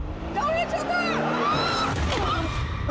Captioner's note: loud crash